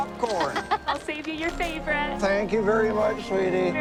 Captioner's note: Cassie laughs